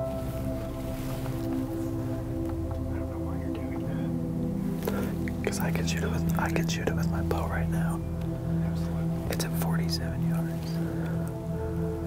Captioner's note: whispering